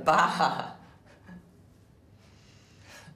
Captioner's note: laughing